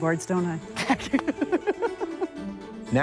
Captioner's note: laughs